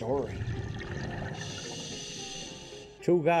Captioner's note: diver breathing